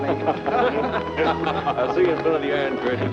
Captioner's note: chuckling